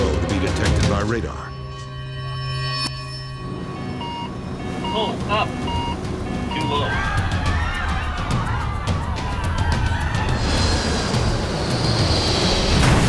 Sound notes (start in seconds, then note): 2.4 dramatic music; 6.5 passengers screaming; 10.1 urgent percussive music; 11.7 plane explodes